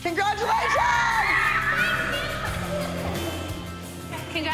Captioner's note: girls cheering